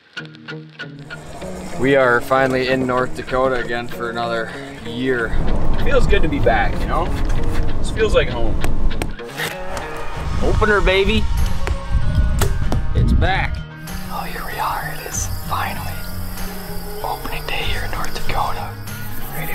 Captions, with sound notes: (guitar playing) - We are finally in North Dakota again for another year. Feels good to be back, you know. It feels like home. (hammering) Open up baby! - It's back. - [Man whispering] Oh, here we're. It's finally opening day here in North Dakota,